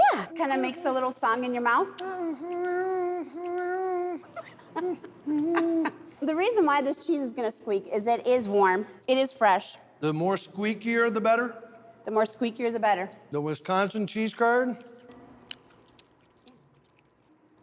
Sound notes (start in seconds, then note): 1.8 humming, chewing; 4.3 laughing; 14.7 chewing squeakily